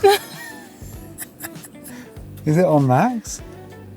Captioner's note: laughing